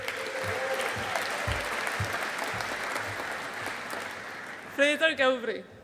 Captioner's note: audience applauding